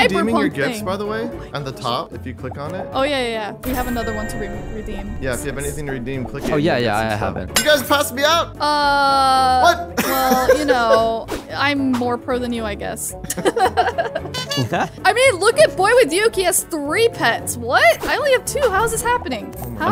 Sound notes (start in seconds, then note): 9.9 laughing amusingly; 13.2 laughing amusingly